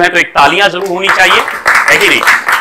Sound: clap

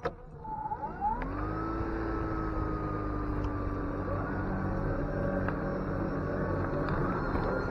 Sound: electric motor whirs and vrooms

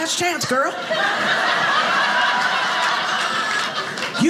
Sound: audience laughing

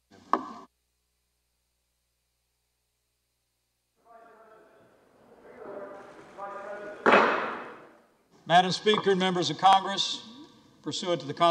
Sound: gavel

